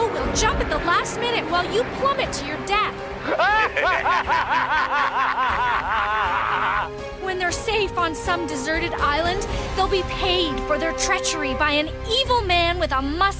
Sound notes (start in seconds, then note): 3.2 laughing